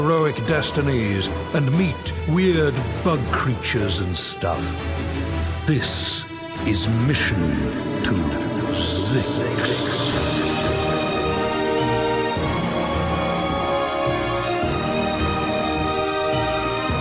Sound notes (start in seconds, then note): 8.1 echoing